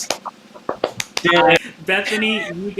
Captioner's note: claps